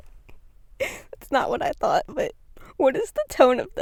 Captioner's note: laughs